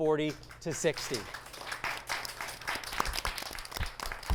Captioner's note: applause